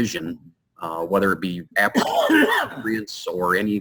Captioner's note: coughs loudly